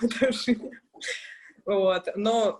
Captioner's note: laughs